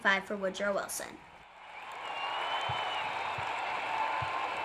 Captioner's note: cheering crowds